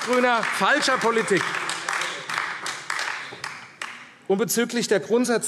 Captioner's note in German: Beifall AfD